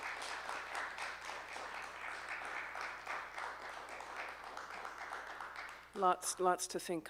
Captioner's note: A round of applause follows